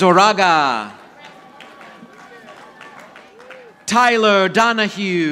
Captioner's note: audience applauding